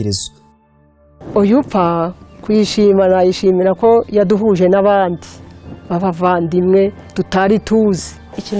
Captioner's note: speaking in Kinyarwanda